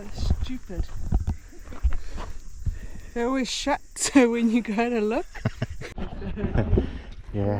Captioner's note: laughter